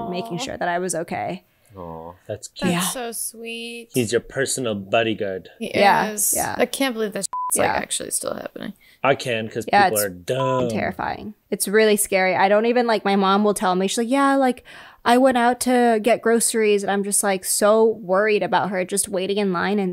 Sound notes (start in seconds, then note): 7.3 beep